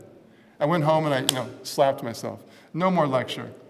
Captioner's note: slap